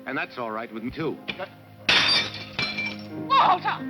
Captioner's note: flower vase smashing on the floor